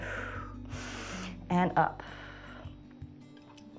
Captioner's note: exhales; inhales